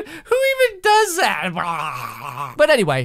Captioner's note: serpentine noises